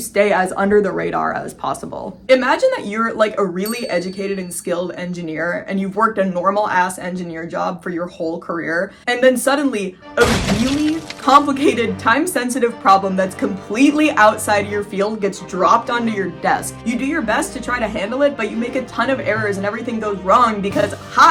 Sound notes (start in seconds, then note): 3.6 ding; 10.1 stressful music; 10.2 thud